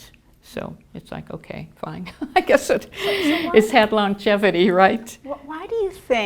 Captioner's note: laughing